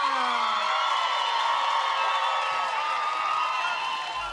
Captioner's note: cheering, applause